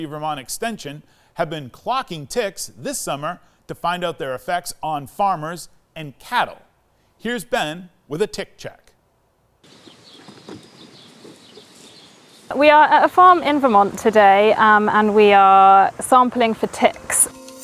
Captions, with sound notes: of Vermont Extension have been clocking ticks this summer to find out their effects on farmers and cattle. Here's Ben with a tick check. (birds chirping) - We are at a farm in Vermont today and we are sampling for ticks.